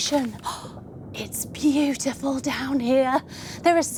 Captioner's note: sighing